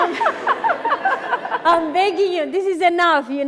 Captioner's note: laughing